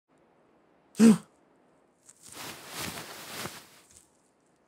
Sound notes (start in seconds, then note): 1.0 gasps